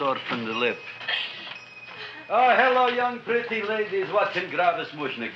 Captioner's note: bell ringing